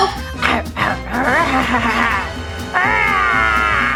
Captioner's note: growling